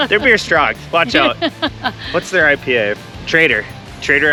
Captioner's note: laughing